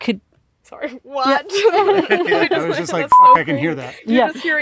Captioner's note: laughs